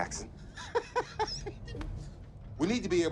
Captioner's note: Faraday laughs